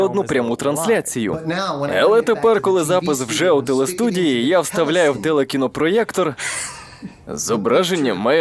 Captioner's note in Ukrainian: сміється